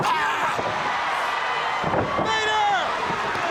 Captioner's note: crowd chattering